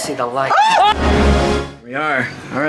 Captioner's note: both scream